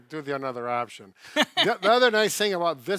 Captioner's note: laughing